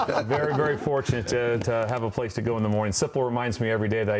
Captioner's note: laughter